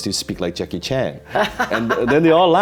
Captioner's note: laughing